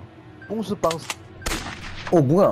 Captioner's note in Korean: 암살자 총성